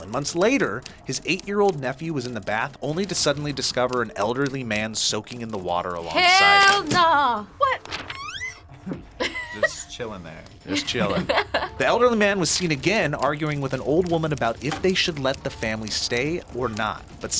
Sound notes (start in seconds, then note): 10.7 both laugh; 10.7 laughs